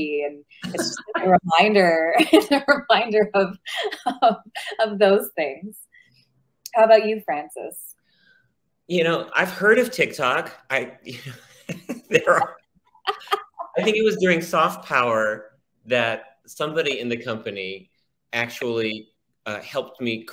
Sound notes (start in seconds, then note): 11.1 laughs